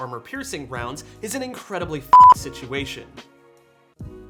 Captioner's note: beeps